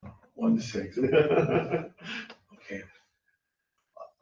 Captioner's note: laughing